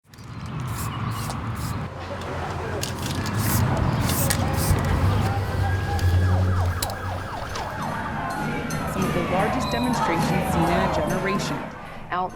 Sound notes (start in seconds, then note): 0.7 traffic Noise